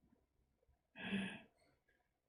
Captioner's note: inhales